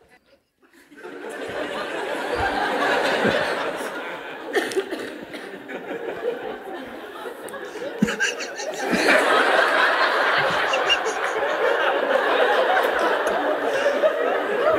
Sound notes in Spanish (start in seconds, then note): 1.0 risas; 7.9 Mooji y la sangha vuelven a reírse